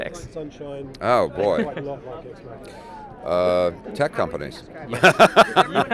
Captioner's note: laughs